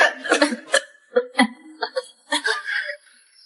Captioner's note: cough cough cough